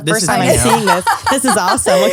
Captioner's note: laughs